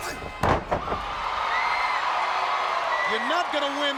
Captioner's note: fans cheering; Scott thudding